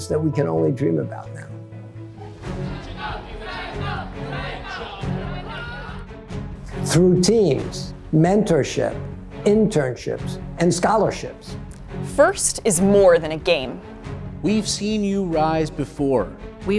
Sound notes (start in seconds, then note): 2.6 kids cheering